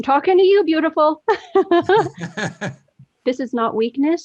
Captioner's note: all laugh